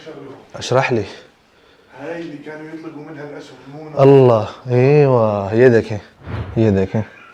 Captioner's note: Arabic